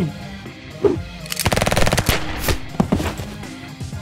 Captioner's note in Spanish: disparos